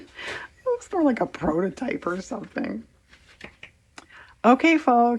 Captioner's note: laughs